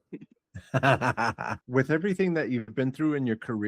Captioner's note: laughing